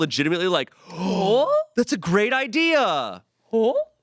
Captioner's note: gasps